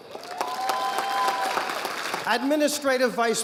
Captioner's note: audience applauding